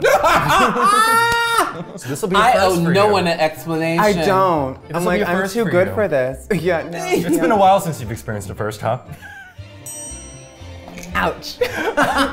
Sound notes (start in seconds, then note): 0.0 laughing; 9.8 bell dinging